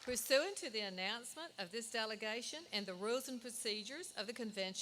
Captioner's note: applause